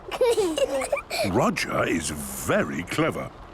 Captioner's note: laughter